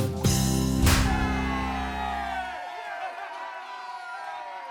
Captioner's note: crowd cheers